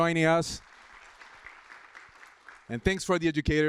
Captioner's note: applause